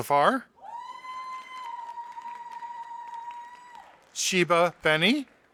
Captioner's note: audience applauding